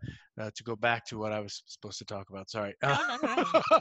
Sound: laughs

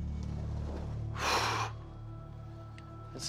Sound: sighs

